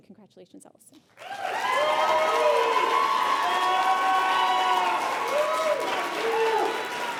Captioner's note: applause